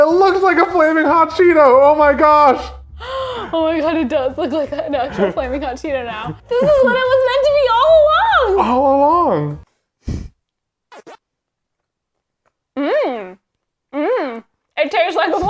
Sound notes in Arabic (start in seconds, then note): 11.0 أصوات لعبة فيديو